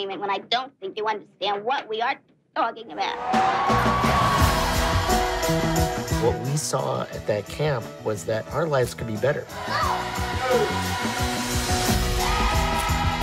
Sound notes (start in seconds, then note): 3.2 clapping; 4.3 bright music; 9.8 bright music